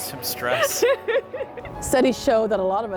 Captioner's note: laughing